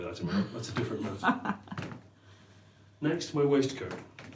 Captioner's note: laughs